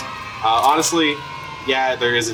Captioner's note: kids cheering